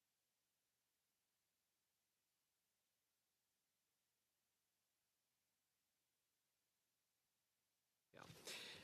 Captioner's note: speaking French